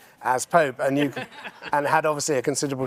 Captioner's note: others laughing